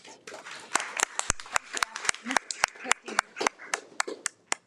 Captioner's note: attendees applaud